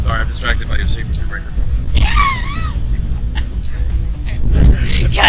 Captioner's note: laughing